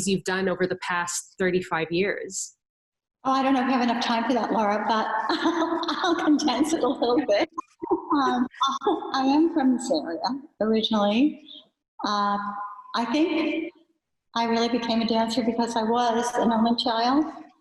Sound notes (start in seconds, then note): 5.3 laughs